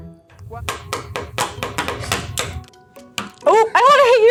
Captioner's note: rhythmic tapping